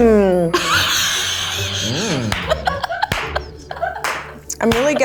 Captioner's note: laughs